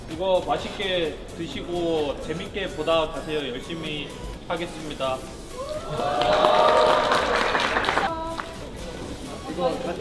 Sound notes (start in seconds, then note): 5.6 more cheers